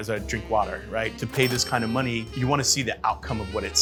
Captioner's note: register bell rings